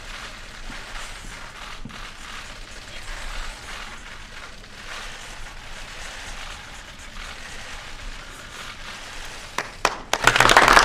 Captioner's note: applause